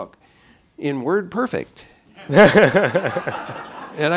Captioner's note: laughter